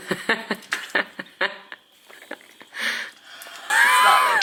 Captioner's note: laughing